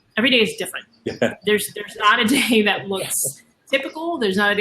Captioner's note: laughter